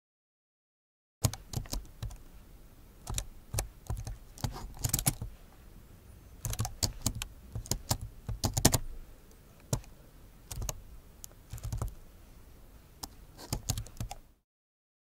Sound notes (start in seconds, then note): 0.0 sound of laptop typing